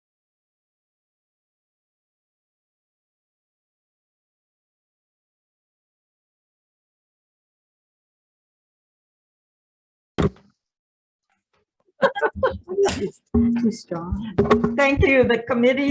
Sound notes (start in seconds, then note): 10.2 gavel banging; 12.0 people murmuring